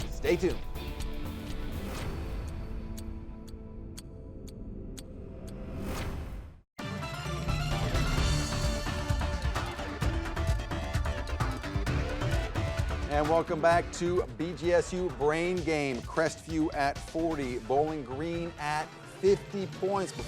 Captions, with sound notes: Stay tuned. (upbeat music) (clock ticking) (dramatic music) And welcome back to BGSU "Brain Game". Crestview at 40, Bowling Green at 50 points.